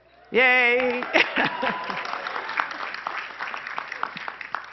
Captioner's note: cheering and clapping